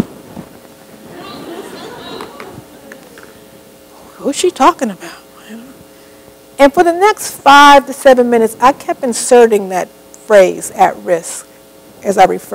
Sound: laughter

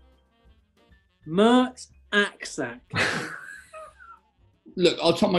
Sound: chuckles

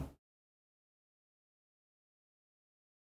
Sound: pause

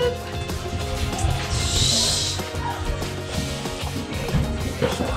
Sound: shushing

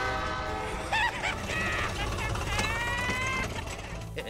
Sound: laughing

